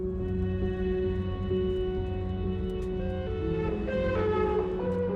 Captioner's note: police siren sounding